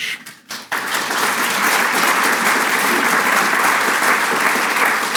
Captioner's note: audience clapping